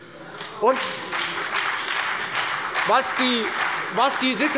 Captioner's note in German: Beifall bei der FDP und der SPD